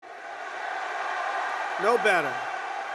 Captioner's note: applause